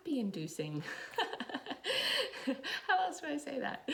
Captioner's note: laughs